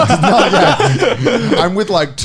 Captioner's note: laughing